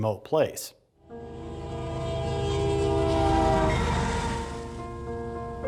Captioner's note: train horn blowing